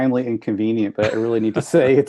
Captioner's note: laugh